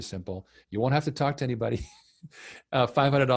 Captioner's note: chuckles